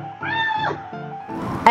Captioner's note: screams